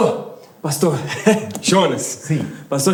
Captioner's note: nervous laugh